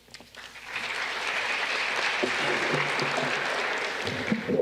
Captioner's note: audience clapping